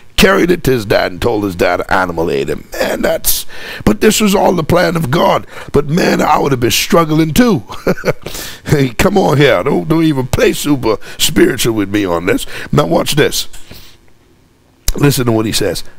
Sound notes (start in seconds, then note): 7.7 laughs